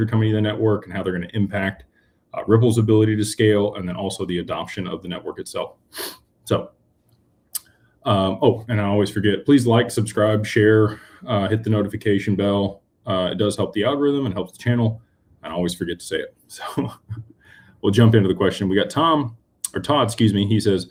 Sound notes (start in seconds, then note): 6.0 snorts